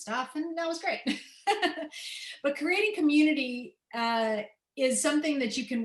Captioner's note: laughter